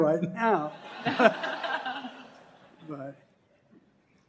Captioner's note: laughter